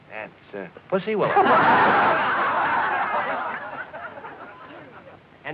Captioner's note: laughter